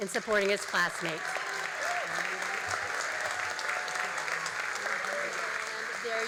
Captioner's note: all applauding and cheering